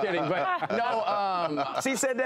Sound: laughter

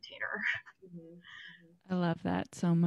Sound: laughs

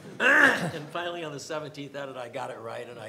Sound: everyone laughs

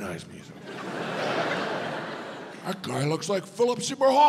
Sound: audience laughs

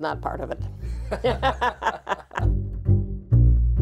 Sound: laughing; curious music

